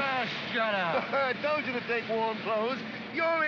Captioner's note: laughs